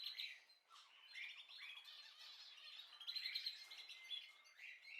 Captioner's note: bird